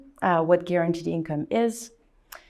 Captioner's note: none